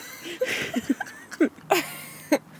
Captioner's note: can't stop laughing